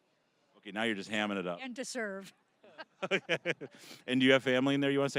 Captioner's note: both laughing